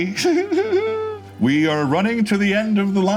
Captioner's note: giggling